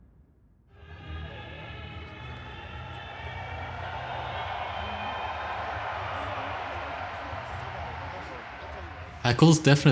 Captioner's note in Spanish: Una multitud ruge